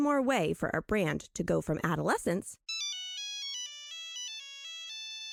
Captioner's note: Nokia original ringtone